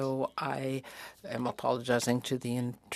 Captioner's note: speaking French